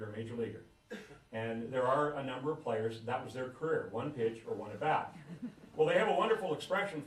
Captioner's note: laughter